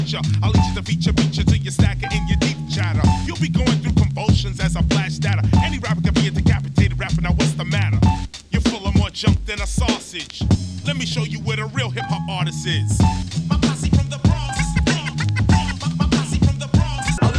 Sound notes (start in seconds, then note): 14.8 record cuts and scratches